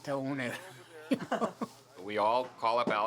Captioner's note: laughing